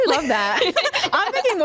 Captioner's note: laughter